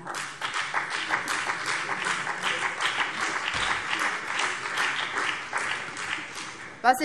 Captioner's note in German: Beifall BÜNDNIS 90/DIE GRÜNEN